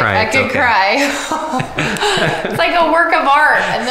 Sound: laughing

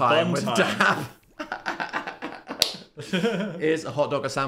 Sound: laughs

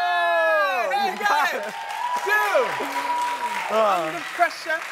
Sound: crowd cheering

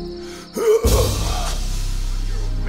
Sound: grunt

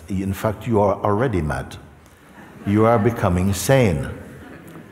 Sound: laughter

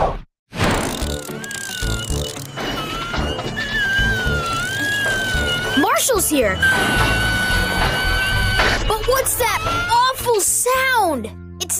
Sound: awful Screeching Sound

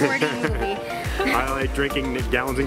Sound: laughing

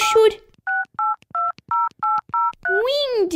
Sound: dialing

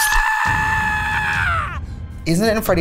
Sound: man screams

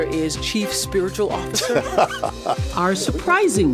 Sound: laughs

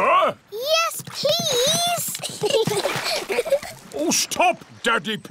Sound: giggles

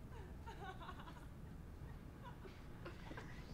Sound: faint laughter

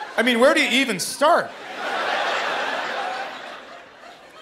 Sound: laughter

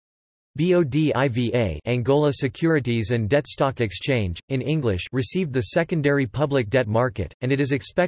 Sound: Angola Securities and Debt Stock Exchange, in English

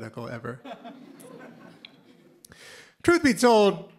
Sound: laughter

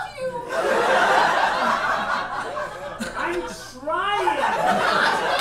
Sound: audience laughs

